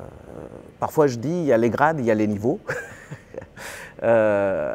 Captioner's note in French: rires